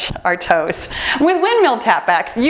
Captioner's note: timerbeeps